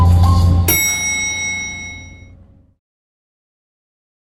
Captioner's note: dinging